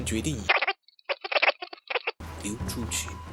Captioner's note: signal interference here